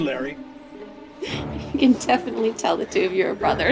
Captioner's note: giggles